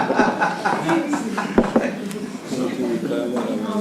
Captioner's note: laughter